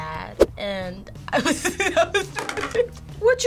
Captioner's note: laughs